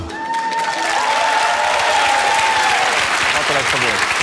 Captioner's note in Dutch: applaus en gejuich